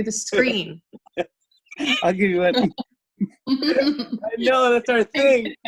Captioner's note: laughs